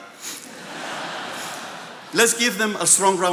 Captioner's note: attendees laughing